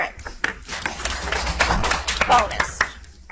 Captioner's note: audience applauds